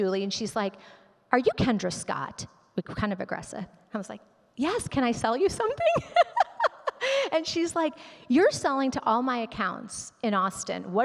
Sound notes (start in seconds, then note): 5.8 laughs